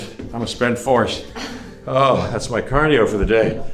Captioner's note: chuckles